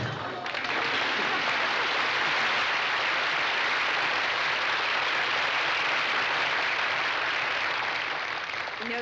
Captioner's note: applause